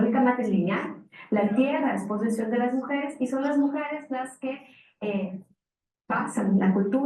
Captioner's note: speaking in foreign language continues